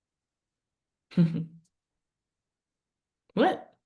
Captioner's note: chuckling